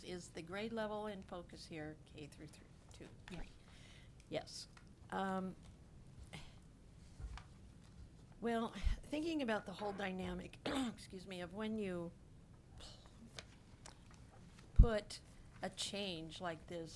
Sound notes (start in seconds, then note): 10.7 clears throat